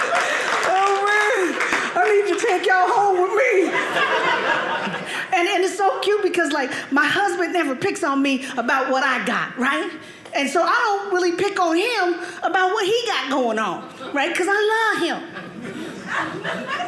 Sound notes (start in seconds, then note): 3.0 audience laughing